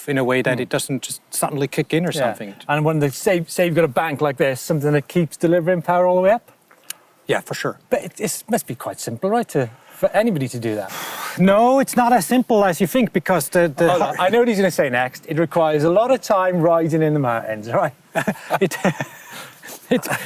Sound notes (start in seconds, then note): 10.9 deeply exhales; 18.1 both chuckle